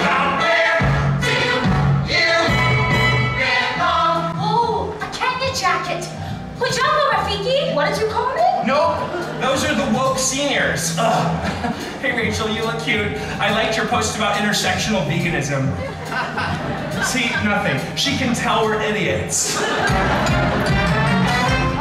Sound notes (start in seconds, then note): 6.3 speaks Swahili